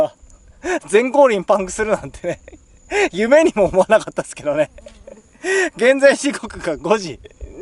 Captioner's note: laughs